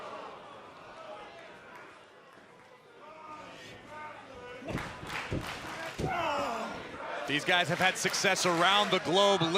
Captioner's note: crowd cheering